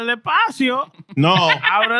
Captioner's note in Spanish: Hablando en idioma extranjero